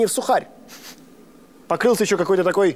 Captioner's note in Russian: он нюхает